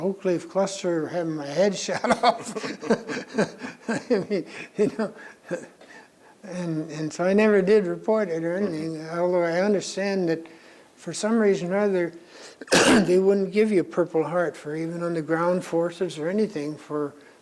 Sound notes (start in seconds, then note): 1.9 both laugh; 12.6 coughs